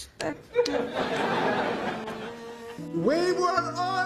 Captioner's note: audience laughing